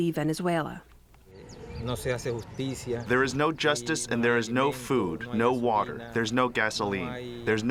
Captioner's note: through translator